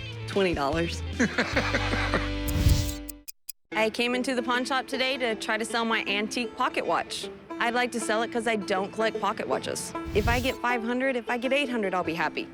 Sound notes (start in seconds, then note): 1.2 laughs